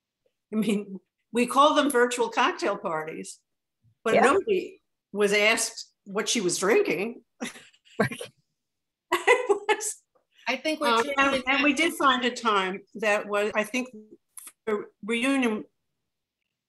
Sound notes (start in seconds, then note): 7.9 laughs